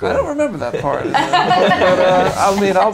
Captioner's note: laughing